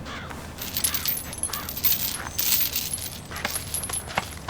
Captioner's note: banging; metal jingling